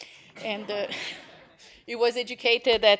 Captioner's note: laughter